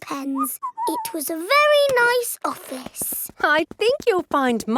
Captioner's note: whistles